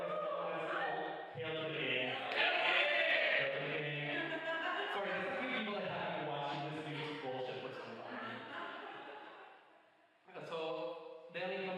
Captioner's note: more laughter and banter